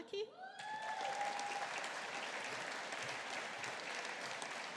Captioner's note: audience applauding